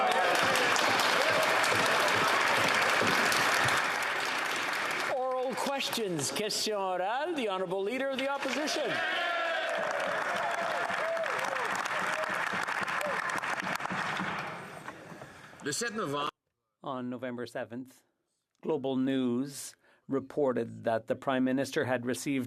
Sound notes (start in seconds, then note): 4.3 applause